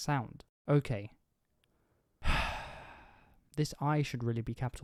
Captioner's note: deep exhale